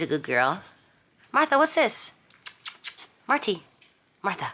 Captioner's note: smacks lips